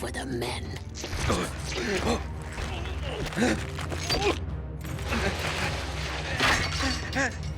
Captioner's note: groaning